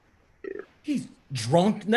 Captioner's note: belch